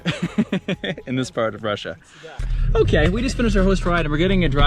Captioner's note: laughs